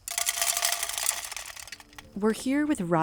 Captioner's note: seeds clattering